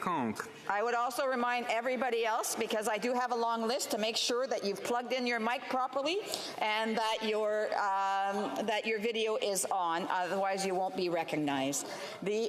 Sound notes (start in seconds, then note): 3.2 speaking FRENCH